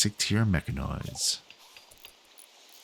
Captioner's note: silence